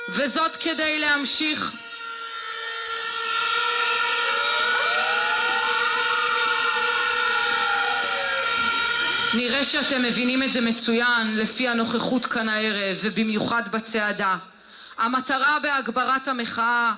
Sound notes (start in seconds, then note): 1.3 cheers of agreement